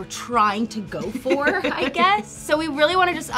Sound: laughing

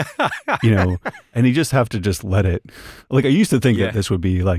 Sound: laughter

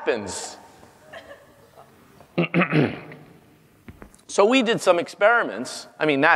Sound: laugh; cough

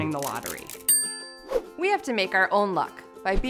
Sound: dinging

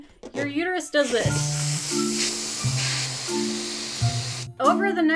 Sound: balloon hissing; quirky music

